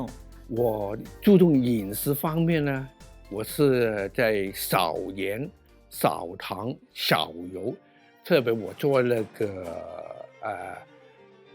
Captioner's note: speaking chinese